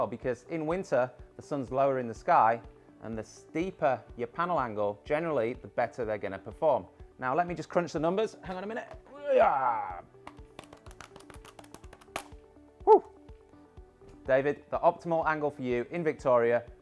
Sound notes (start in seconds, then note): 9.1 groans